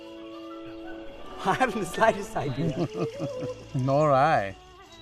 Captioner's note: laughs